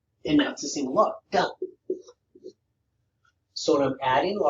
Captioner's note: marker tapping